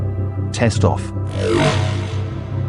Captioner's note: transition sound